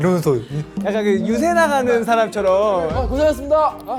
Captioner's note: greetings in a robot tone